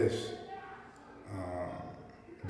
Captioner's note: yelling in the background